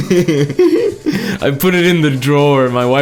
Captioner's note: laughs